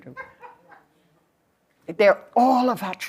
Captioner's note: laughter